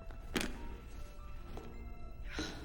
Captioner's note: sighs